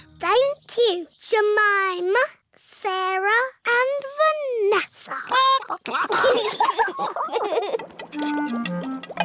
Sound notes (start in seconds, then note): 5.3 children giggle; 5.4 chickens chatter